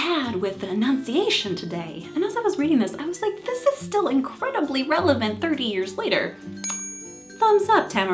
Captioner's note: ding